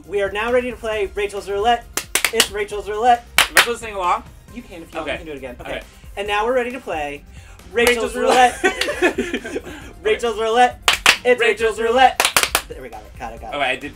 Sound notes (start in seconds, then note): 1.9 clapping; 8.0 laughing; 12.1 clapping